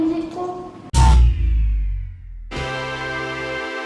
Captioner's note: whirring down